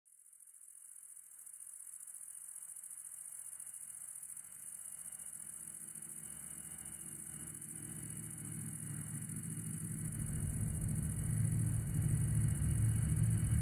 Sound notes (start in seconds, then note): 1.0 insects chirping; 1.0 suspenseful music